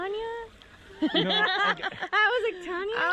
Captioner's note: laughing